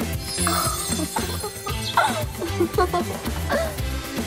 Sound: both laughing

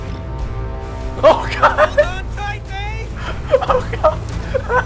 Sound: laughing; hysterical laughter

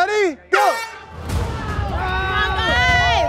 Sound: air horn blaring; cheering

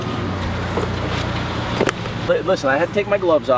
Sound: engine whirring

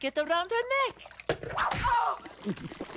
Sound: screaming

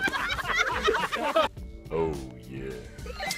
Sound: laughter; deep voice; laughter

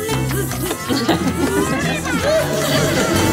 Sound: laughing

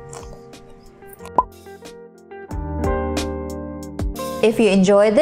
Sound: apple bite, Music; pops bottle

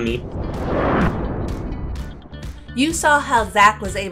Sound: whooshing

